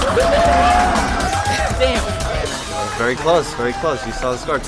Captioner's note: cheering